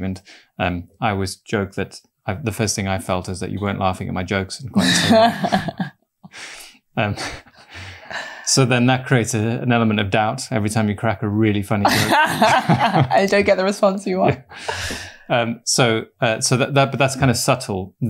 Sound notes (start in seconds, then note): 4.8 laughter; 11.8 laughter